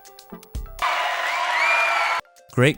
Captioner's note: audience cheering